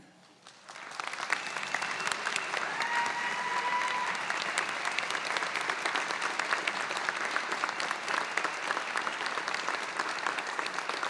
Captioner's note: applause